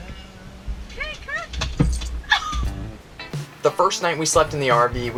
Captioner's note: laughing